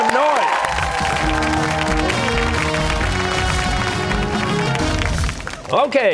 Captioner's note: cheers and applause